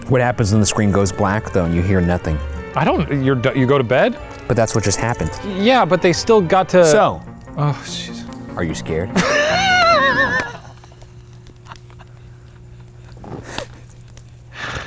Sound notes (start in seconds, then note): 9.1 laughing